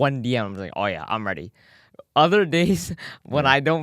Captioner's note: laughs